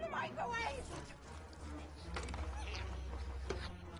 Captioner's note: chewing flesh